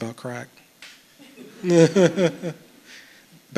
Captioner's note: chuckles